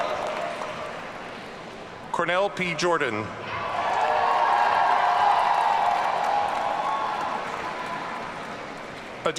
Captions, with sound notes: Cornell P. Jordan. (audience cheering)